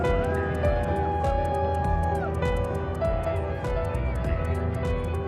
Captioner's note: crowd cheering